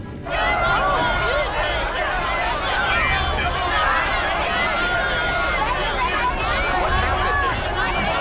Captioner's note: crowd shouting